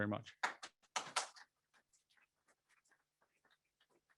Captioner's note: applause